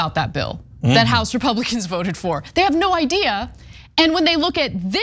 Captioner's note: laugh